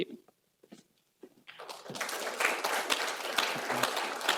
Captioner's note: applause